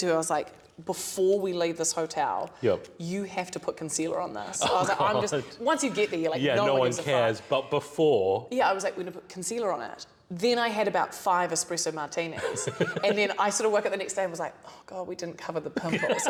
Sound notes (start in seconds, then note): 12.3 laughter